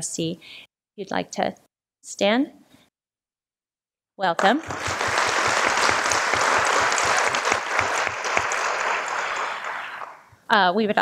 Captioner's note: applause